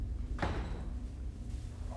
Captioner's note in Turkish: Kapı sesi